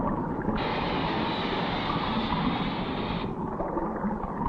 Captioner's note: liquid bubbling